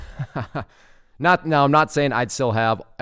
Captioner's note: laughs